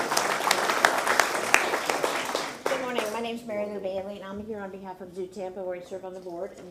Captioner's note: applause